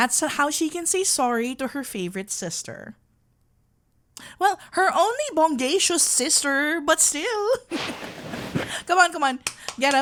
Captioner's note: playful; clapping hands